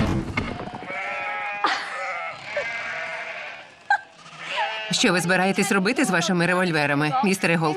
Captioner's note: sheep bleating; Rebecca laughing